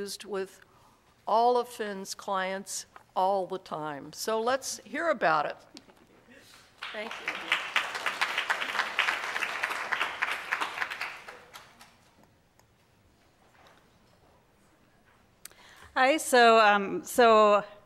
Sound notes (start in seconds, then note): 6.8 audience applauding